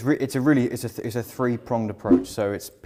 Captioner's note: graphics whooshing